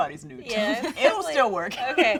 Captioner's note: laughs